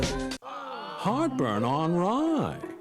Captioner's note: workers groaning